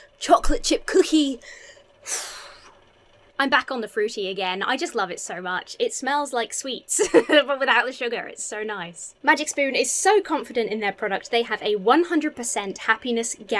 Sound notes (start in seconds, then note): 2.0 sighs